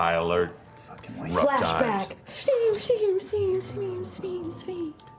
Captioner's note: flashback noises